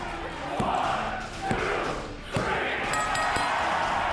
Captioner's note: crowd cheering; hand pounding; bell dinging